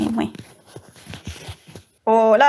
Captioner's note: rustling